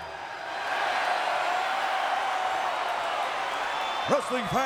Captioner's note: crowd cheers